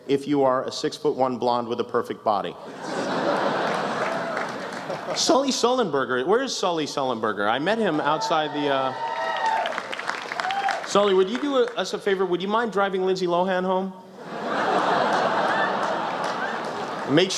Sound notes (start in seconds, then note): 2.6 laughter; 8.0 applause, cheers!